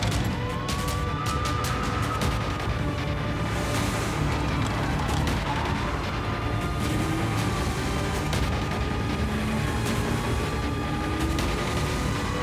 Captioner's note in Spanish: chirrido de llantas; ruido de los vehículos